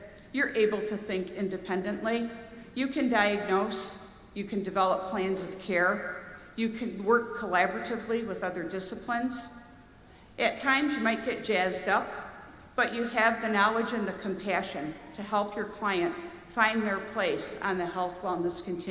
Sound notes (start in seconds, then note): none